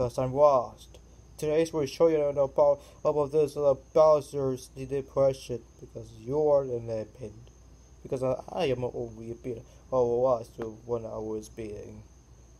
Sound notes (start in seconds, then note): none